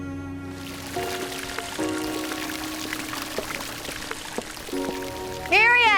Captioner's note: water gurgling, splashing